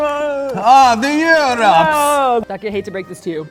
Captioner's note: bad European accent